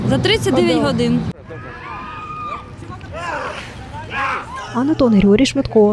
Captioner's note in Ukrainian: люди кричать